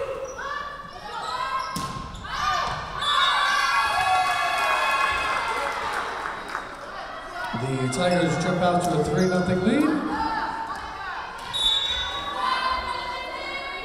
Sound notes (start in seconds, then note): 2.8 Tigers cheering; 3.0 whistle blowing; 11.5 whistle blowing